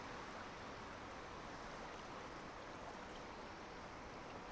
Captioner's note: water flowing